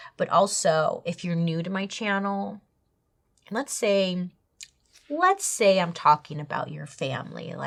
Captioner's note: none